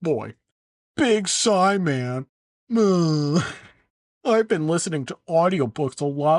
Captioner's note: sigh